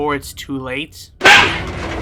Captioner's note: punch